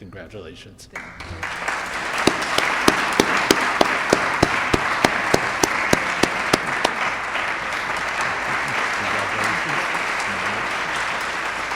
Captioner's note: audience applauding